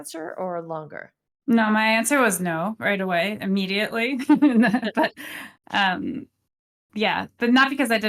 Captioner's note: laughs